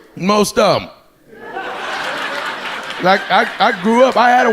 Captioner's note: audience laughing